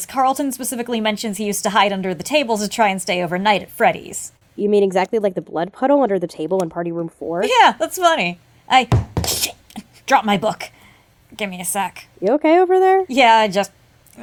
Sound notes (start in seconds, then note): 8.9 thud